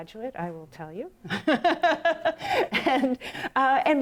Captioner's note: laughs